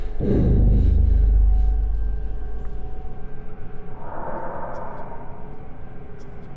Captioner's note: soft intense music; monster rasping softly